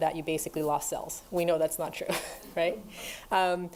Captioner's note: laughs